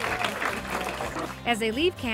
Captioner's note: clapping